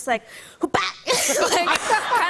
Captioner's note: laughter